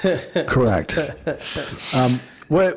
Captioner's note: laughing